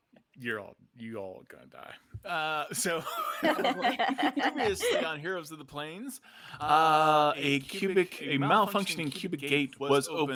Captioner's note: laughs